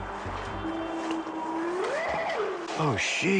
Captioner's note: howling